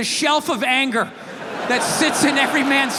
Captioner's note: audience laughs